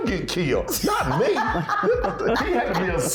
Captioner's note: laughing